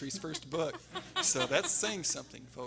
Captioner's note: everyone laughing